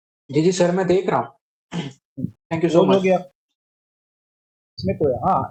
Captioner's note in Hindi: गला साफ़ करने की आवाज़